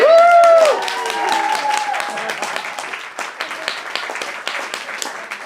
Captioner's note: applause